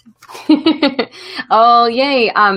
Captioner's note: laughs